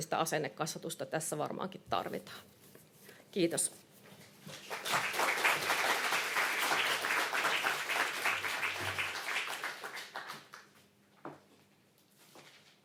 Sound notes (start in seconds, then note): 4.5 applause